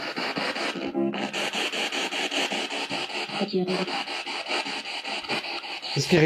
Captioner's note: radio noise from the spirit box